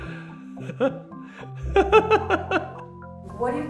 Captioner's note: therapist laughing